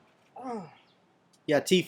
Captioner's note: grunts